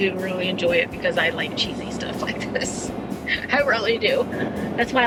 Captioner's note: laughs